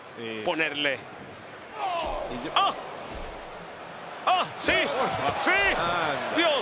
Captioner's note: applause